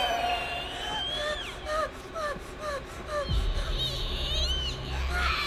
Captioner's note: Maria panting